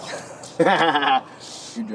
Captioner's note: Evan laughs